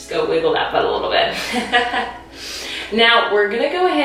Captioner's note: laughing